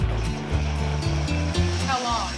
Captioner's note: blender whirs